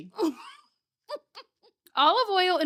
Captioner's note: laughing